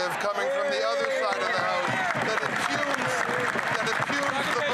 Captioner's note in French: voix de l'interprète